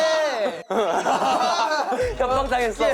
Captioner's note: burst out in laughter